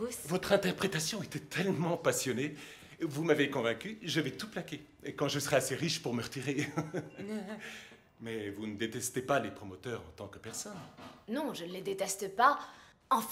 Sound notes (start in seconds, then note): 6.4 laughs